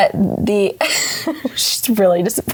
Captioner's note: laughing